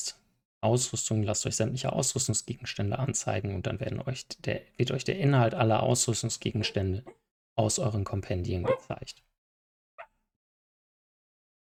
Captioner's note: dog barks approvingly